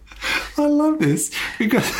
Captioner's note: laughing